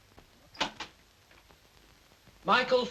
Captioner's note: door clicks open